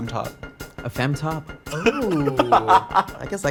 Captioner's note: laughs